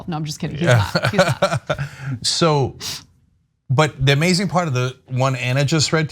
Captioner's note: laugh